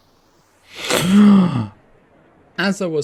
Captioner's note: shocked gasp